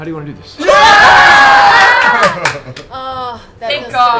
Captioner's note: cheering